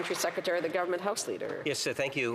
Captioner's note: applause